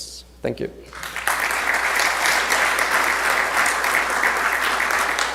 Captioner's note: audience applause